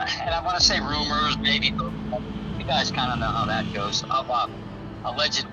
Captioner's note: laughs